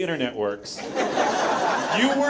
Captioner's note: audience laughs